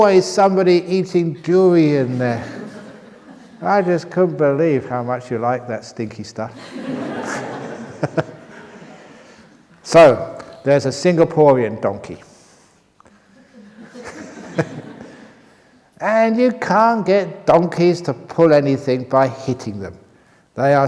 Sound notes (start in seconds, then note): 6.5 laughter; 13.3 laughs